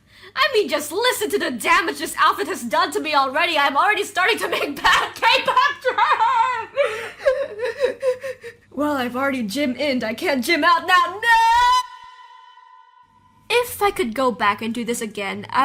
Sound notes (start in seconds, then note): 7.1 sobbing, laughing